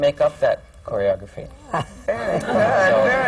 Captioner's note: laughter